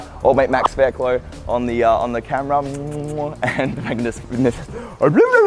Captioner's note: kissing